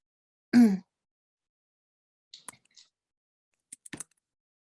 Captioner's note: clearing throat